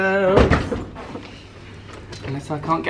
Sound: door thuds

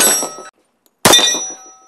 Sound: bang

